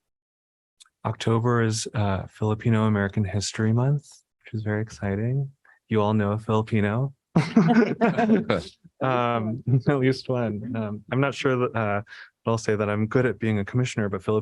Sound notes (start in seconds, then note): 7.3 laughter